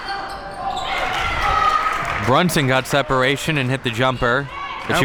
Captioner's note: audience cheering